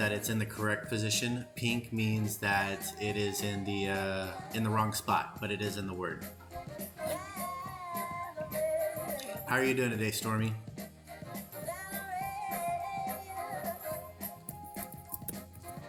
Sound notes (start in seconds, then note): 6.9 crying; 14.3 singing